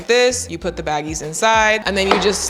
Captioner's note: containers clatter